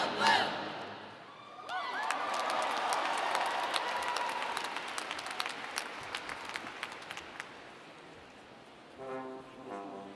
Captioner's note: cheering